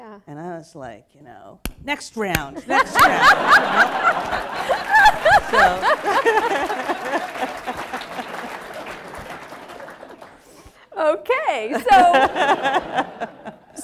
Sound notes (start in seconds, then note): 3.6 applause